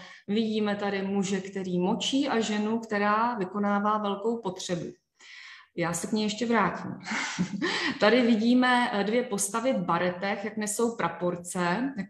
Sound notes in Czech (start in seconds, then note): 7.0 smích